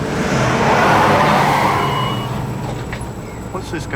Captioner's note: tires squealing